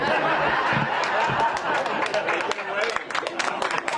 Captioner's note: laughter; applause